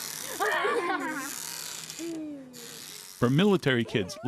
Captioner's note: children laugh